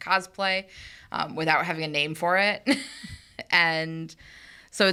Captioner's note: chuckles